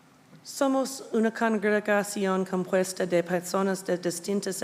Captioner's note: speaking Spanish